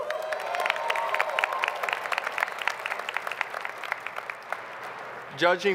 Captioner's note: applause